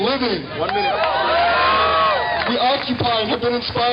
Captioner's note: cheering